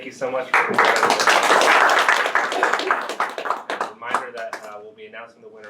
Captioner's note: audience applauding